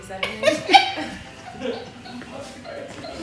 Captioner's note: laughing